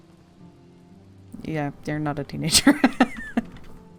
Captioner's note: laughs